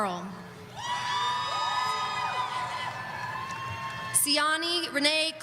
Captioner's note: audience cheering